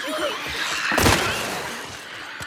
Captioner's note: scattered gunfire